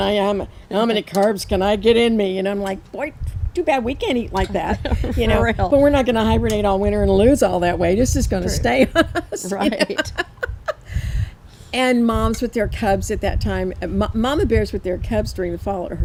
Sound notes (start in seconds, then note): 4.6 laughs; 8.6 laughs; 8.6 chuckles